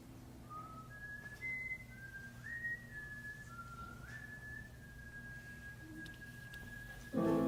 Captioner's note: siren's Whistle